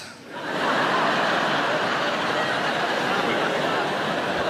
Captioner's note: audience laughs